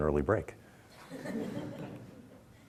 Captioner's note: audience laughter